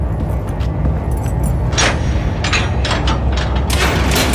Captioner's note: metal clinking